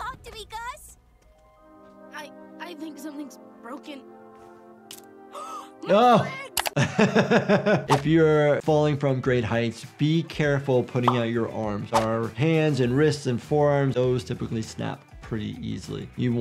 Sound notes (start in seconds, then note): 6.7 laughing